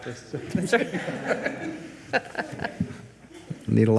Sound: all laugh

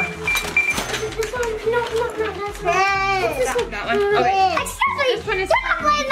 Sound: register beeping

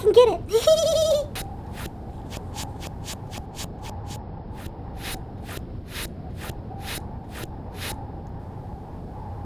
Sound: footsteps; wind howling

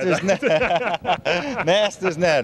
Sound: laughter

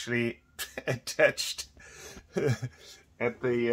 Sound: laughs

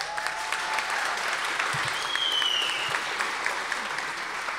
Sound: audience applause

